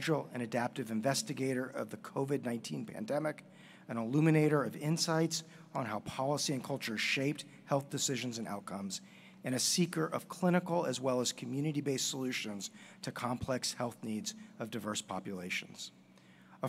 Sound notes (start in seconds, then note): none